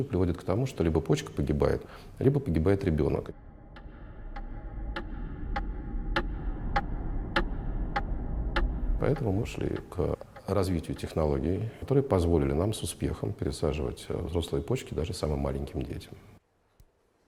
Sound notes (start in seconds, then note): 3.7 the sound of a clock beating